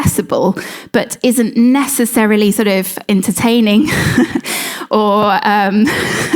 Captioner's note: laughs